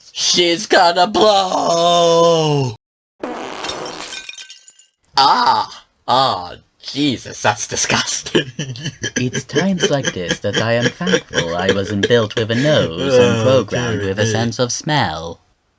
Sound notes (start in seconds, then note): 5.2 pained groans; 9.3 chuckles